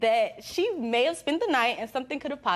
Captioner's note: none